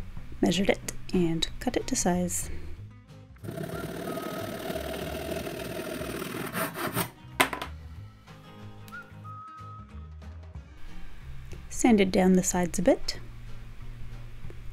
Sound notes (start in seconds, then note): 3.4 sawing sounds; 7.4 plonk